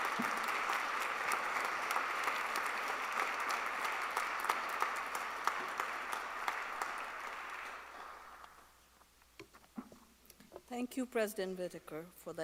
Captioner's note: applause